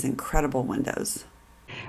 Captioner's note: none